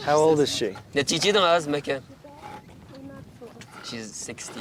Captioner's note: translator speaking in foreign language